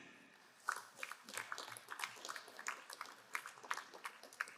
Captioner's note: crowd applauding